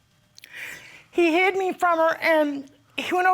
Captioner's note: sniffles